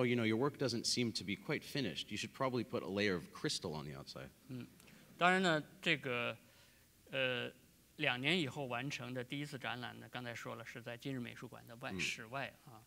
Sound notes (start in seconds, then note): 7.2 speaking in Chinese